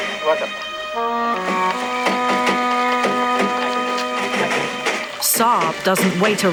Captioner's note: light music; in foreign language